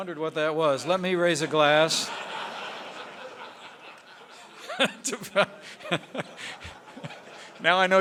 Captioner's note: laughter; laughs